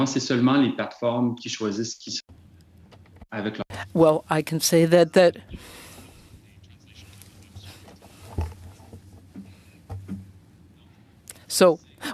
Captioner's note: speaking French